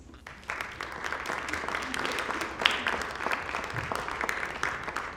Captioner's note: applause